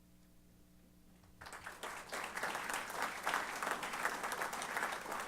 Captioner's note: applause